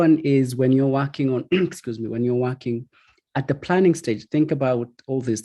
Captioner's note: coughs